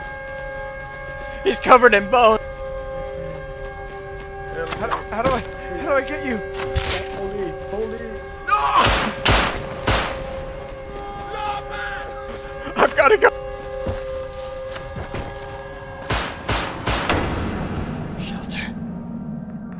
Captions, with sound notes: He's covered in bones! - H-how do I- - How do I get you?! [Blood splattering] - Hold E, hold E! - Guah! [Gunfire] [Gunfire] - Lawlman!! [Coughing] I've gotta go! [Gunfire] [Whispers] Shelter.